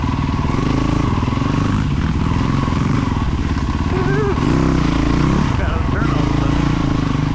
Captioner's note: engine revving